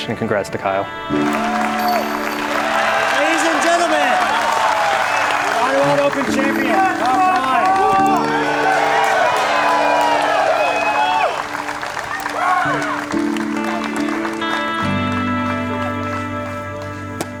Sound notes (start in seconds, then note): 1.4 applause; 8.2 applause